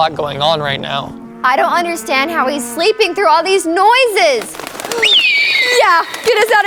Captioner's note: bird flutters